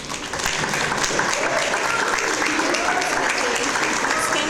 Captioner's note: audience applause